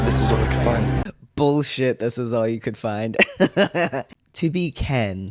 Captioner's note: laugh